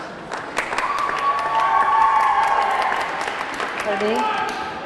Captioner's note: audience clapping; audience cheering